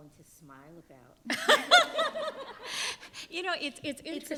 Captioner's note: panelists laughing